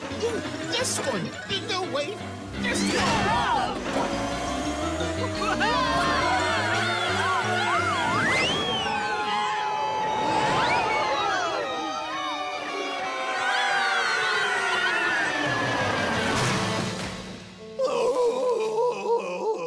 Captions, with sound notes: This one! No wait, Whoa! [yelling] [screaming] [groaning]